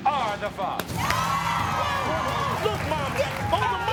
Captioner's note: crowd cheers